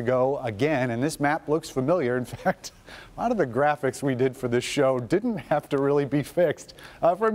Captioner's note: laughter